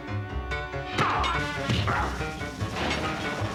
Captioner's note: groans; tense music